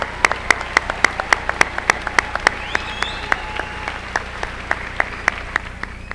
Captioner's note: applause